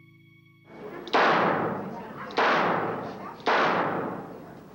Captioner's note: pistol blasting